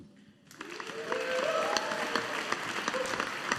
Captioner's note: audience applauding